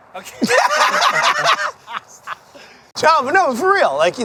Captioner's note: everyone laughs